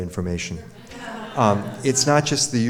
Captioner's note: audience laughs